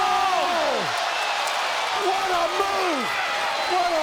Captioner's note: crowd cheering